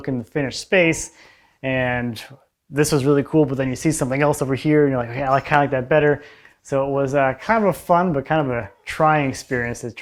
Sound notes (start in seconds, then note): none